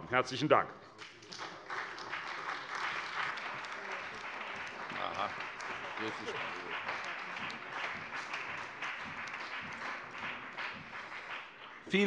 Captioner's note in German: Beifall bei der CDU und dem BÜNDNIS 90/DIE GRÜNEN